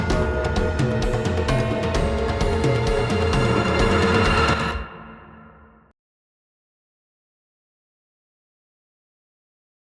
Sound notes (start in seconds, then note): 0.0 upbeat music intensifies; 5.0 music stops